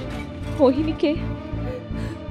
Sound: sobs

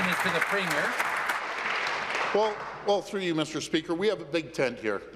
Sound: applause

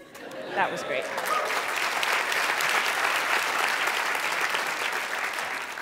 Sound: applause

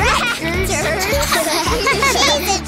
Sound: laughing

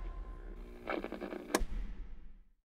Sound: radio turns off

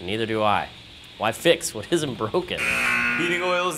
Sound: buzzer

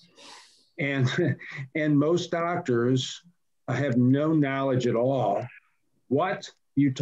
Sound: laughs

